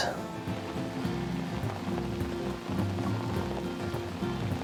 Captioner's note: rain pattering